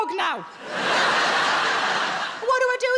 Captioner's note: audience laughs